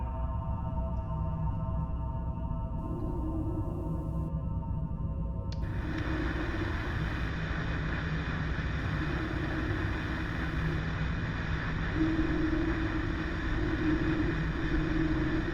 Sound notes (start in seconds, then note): 5.6 static plays